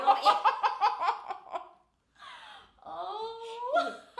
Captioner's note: laughing